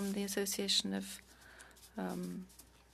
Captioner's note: speaking French